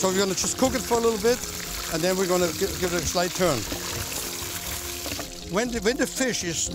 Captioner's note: sizzling